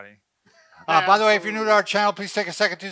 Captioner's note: laughs